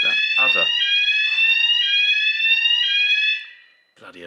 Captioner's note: alarm